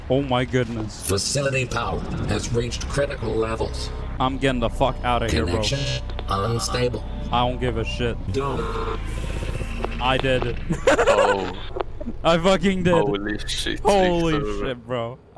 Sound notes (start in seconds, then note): 6.2 glitching; 10.6 laughter